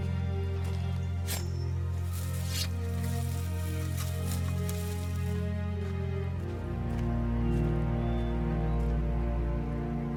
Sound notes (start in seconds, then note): 1.9 leaves rustling; 2.3 sword sawing; 2.3 sword scraping; 6.5 somber orchestral music